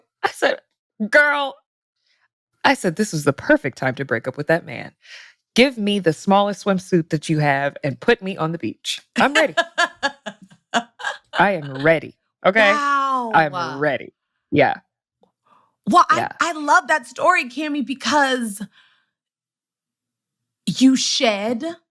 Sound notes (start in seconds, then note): 9.2 laughs